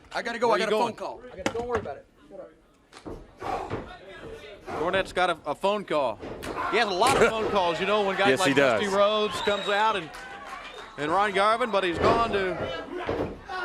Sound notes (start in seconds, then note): 9.0 crowd chatter